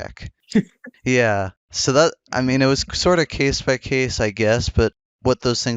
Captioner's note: laughs